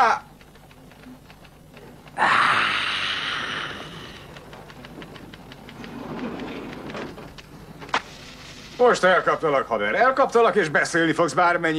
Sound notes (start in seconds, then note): 1.3 hissing